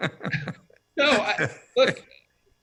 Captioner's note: laughter